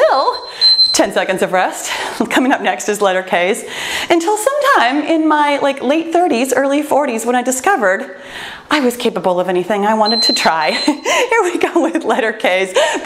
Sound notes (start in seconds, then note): 0.1 timer beeps; 10.0 timer beeps